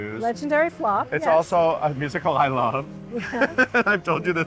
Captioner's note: laughs